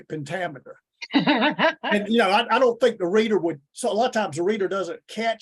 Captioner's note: laughs